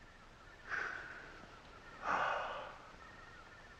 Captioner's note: both sigh